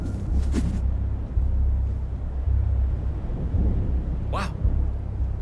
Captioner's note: briefcase whooshes; reticle whooshing